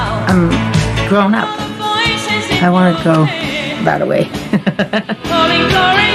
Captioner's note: laughing